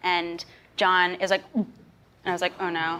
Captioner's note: gags